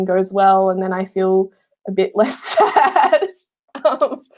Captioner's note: laughing